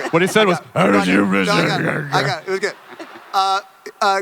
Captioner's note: imitates scratchy voice, speaking unintelligibly